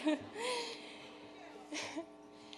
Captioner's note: breathing deeply; chuckling